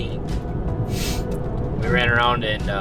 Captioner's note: sniffles